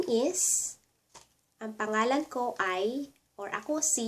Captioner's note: Tagalog